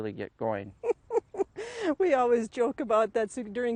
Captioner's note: laughs